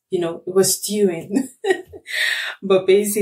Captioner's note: laughs